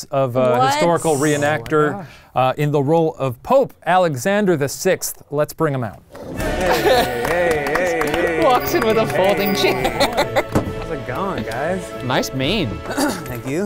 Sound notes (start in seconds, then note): 6.4 cheering; 10.0 laughing